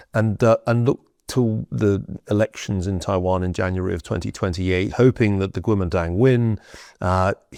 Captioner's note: none